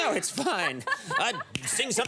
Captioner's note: laughs